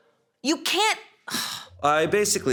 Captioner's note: sighs